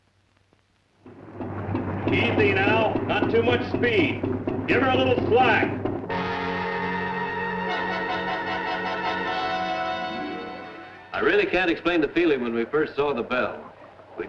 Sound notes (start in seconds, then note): 1.1 machinery whirring; 6.0 dramatic orchestral music